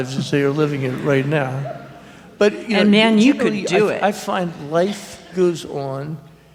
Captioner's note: subdued laughter